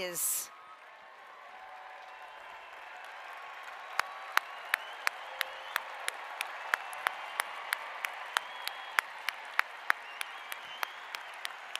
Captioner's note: applause